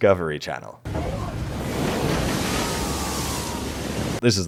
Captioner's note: big splash, fishermen groaning